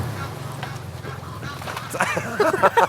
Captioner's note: laughs